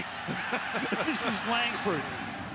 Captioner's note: laughs; laughter